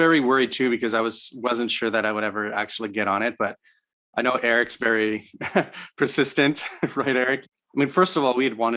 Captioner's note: chuckles